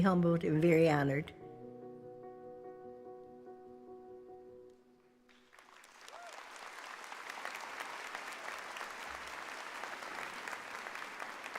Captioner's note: applause